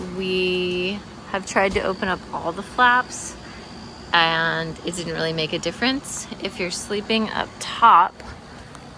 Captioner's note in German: bei Windgeräuschen in der Nacht